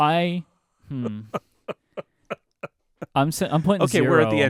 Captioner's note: laughing